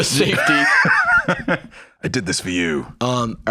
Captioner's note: laughs